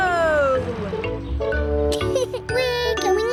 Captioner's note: laughs